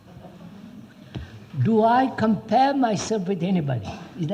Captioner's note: laughter